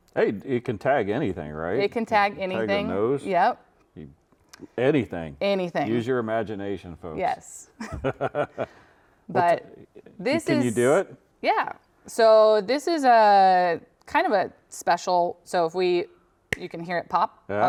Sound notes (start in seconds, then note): 7.8 chuckles